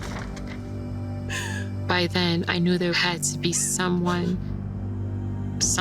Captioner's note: sobbing